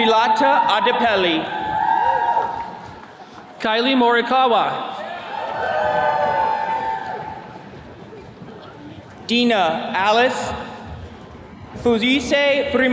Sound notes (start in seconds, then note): 2.2 attendees cheering; 4.9 attendees cheering